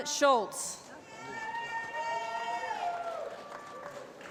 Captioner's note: applause